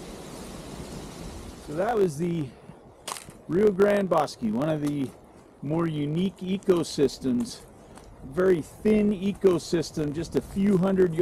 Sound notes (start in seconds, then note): 0.7 leaves crunching